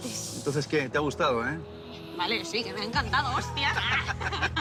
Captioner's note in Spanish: Con acento español; Risas